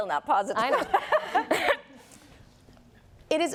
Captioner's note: laughter